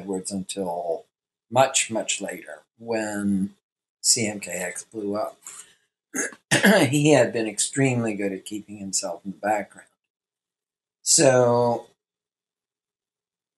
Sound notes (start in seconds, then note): 6.1 coughs